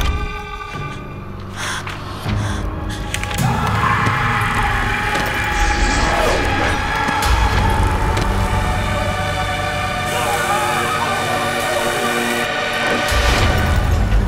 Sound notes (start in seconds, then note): 3.5 Leonard screaming; 8.6 electric buzzing